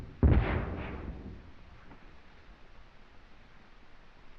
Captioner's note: explosions stop